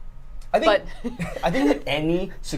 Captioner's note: both laughing